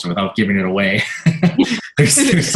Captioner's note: laughter